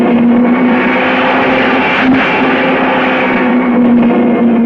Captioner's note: car screaming